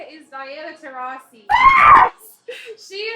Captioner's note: screams